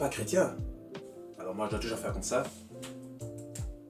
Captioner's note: slow/little hand claps